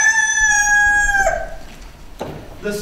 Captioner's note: rooster crows